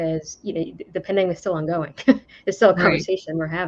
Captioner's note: laughs